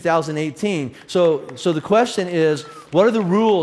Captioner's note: audience applauds